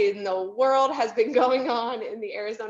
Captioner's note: chuckles